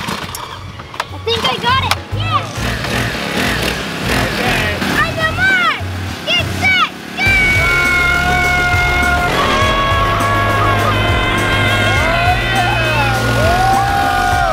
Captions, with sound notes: (engines revving) I think I got it, yeah! (engines revving) On your mark, get set, go! (both screaming)